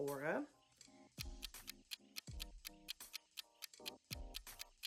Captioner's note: timer ticking